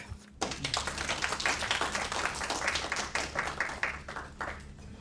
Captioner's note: audience applauding